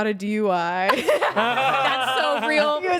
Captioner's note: everyone laughs